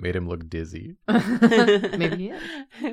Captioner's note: laughs